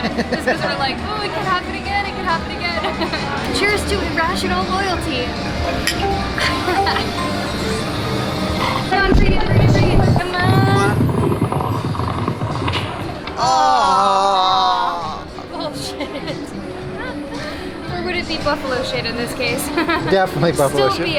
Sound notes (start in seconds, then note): 5.6 glasses clink